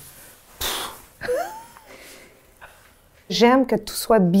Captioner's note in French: rire de Sylvie